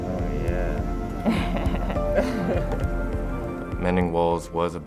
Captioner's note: laughs